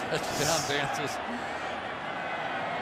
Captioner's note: laughs